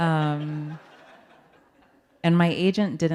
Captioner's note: audience laughing